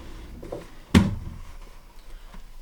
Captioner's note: drawer opening